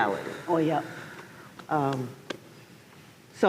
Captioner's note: claps